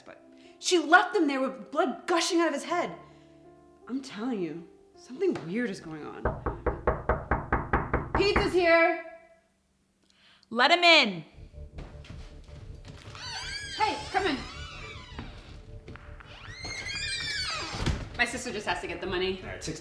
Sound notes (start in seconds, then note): 6.2 door knocking; 11.3 ominous music